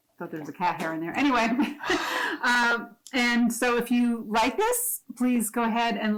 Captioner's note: giggles